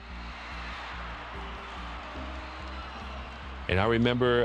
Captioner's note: crowd cheering